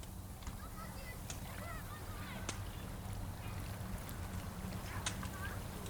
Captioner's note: people talking in the distance